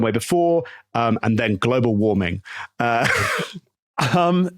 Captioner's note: laughs